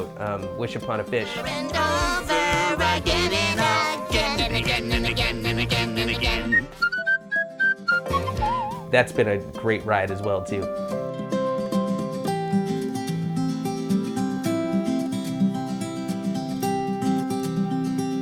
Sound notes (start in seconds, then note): 6.5 whistle chiming; 10.8 happy music